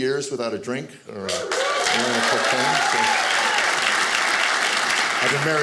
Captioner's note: audience cheering